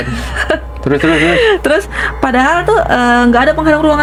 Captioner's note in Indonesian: terkesiap; tertawa